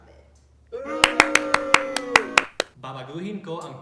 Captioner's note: boos in Filipino